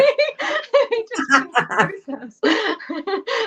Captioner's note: laughter